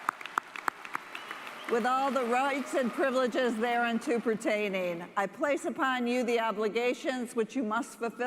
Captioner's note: cheers and applause